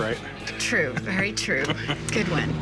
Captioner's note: laughs